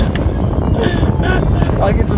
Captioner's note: wind